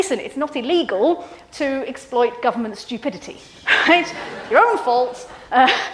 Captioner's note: students laugh; laughs